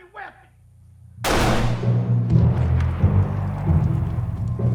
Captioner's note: gun fires